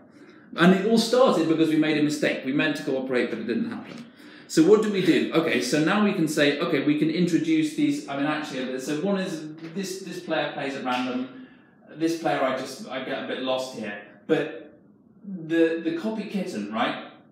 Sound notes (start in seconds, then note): none